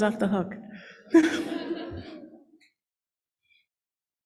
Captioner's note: laughter